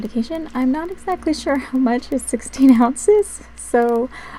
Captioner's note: laugh